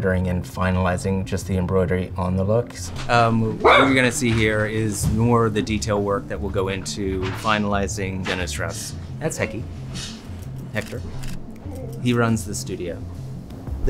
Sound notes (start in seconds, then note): 3.6 dog barking